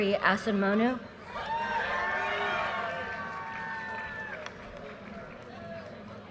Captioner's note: audience cheers and applause